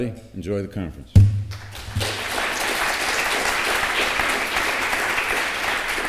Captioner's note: applause